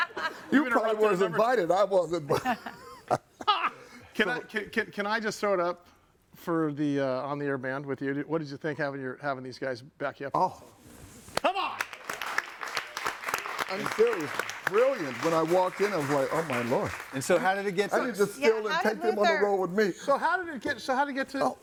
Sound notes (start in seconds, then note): 0.0 hosts laughing; 3.4 laughing; 11.7 clapping